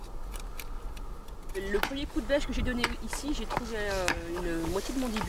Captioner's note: French spoken audio